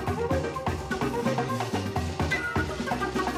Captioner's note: none